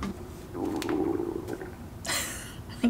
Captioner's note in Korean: 배 꼬로록 소리